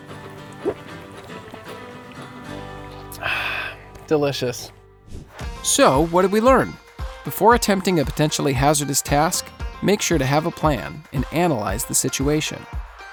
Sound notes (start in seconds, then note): 2.1 lip smack